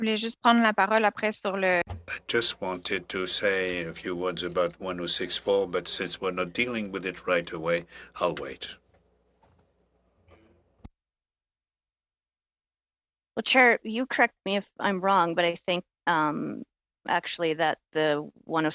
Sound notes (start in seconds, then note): 4.1 speaking French